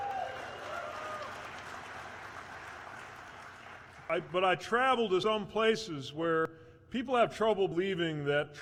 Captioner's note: cheers